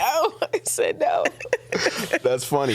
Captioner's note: laughing